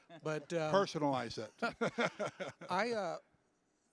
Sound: laughing

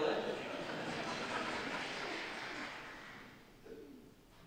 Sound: people applauding

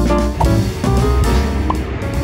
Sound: transition whooshing; upbeat music; transition whooshing

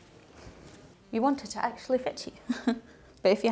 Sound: laughs

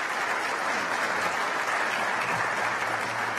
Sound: applause

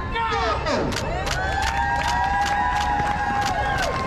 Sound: crowd cheers

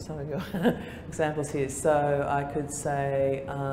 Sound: laughter

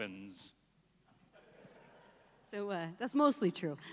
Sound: laughs

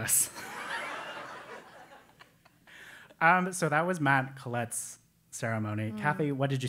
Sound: laugh

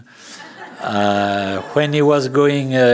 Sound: laughter

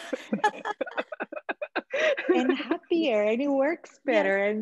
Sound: all laughing

